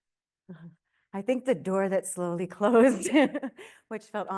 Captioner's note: laughs